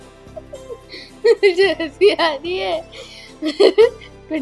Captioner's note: giggles